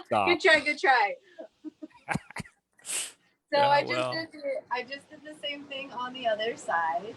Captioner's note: laughs